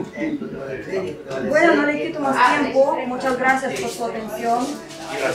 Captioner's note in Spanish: Voces de clientes y tenderos; Voces de trasfondo